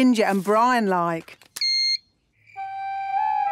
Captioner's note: beep!